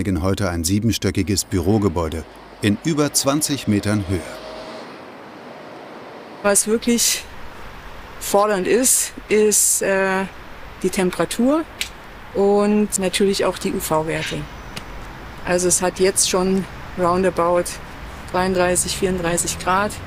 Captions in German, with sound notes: reinigen heute ein siebenstöckiges Bürogebäude in über 20 Metern Höhe. (Ferner Straßenlärm) Was wirklich fordernd ist, ist die Temperatur und natürlich auch die UV-Werte. Es hat jetzt schon roundabout 33, 34 Grad.